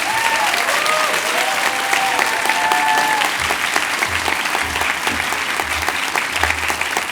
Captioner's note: cheers and applause